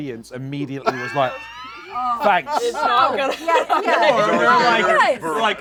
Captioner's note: laughter